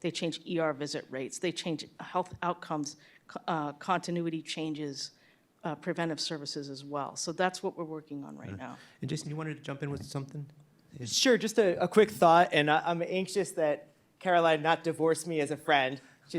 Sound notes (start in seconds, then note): none